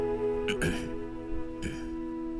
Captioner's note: clearing his throat